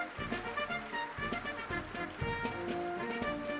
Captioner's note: applause